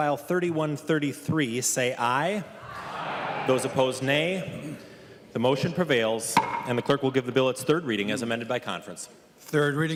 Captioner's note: chorus of ayes